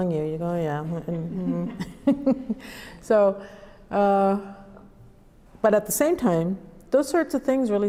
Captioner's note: laughs